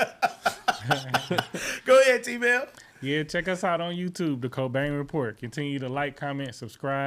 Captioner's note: laughing